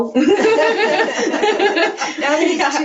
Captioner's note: all laughing